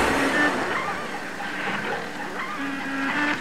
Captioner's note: machine noise